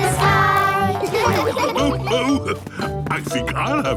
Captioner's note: laughs